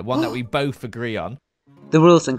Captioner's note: gasps